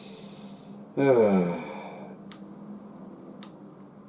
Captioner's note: sighs